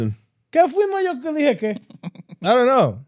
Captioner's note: speaking In German